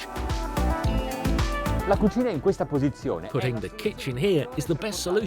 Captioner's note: speaking foreign language